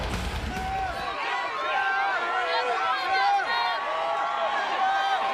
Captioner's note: crowd shouts and cheers